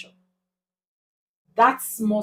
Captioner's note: paause